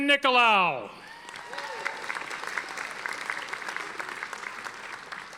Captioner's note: audience applauding